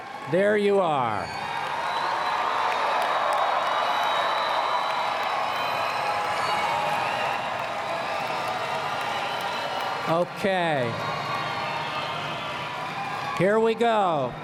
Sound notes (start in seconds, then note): 1.2 applause